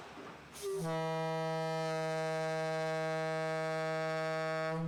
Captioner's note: ship's horn blows